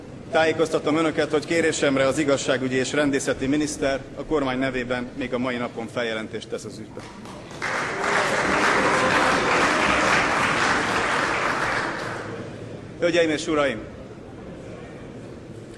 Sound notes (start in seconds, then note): 9.9 Applause in the ranks of the MSZP